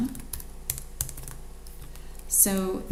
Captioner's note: keyboard clicks